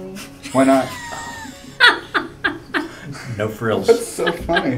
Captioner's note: laugh